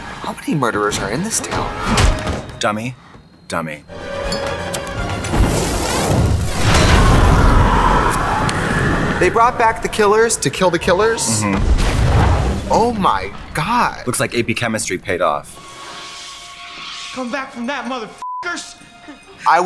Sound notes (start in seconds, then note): 0.0 doors slamming; 5.4 flames roaring; 6.6 people screaming